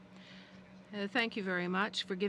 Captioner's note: speaking french